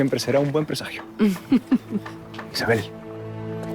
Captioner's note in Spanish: Risas